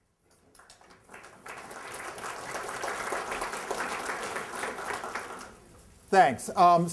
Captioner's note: applause